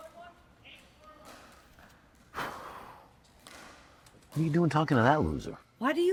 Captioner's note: sighs